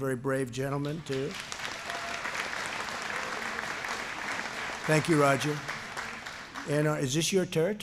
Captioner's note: applause